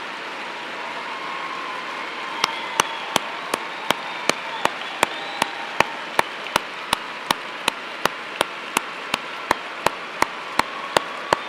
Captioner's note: cheers and applause